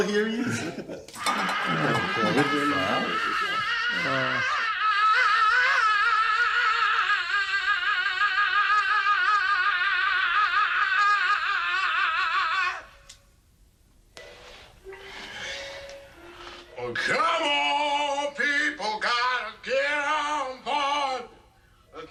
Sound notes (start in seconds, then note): 5.1 squealing